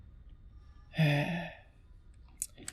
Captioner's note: sigh